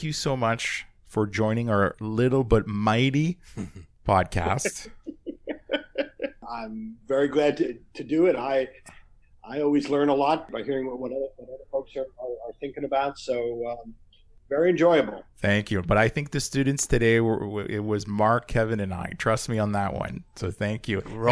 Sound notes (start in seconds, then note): 4.4 laughs